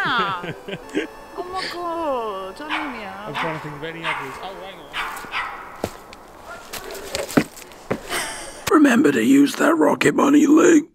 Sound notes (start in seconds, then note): 0.0 laughs; 3.2 dog barks; 4.1 leaves crunch; 7.0 tree thuds